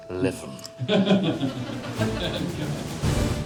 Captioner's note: all laughing